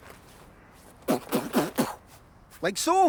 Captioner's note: makes punching sounds